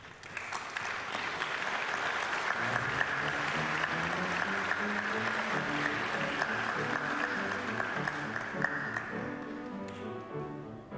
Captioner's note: applause